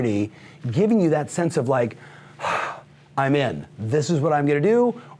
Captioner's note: sighs